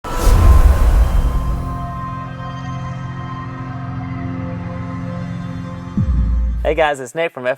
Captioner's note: sound effect